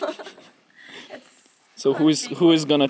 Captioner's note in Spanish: risa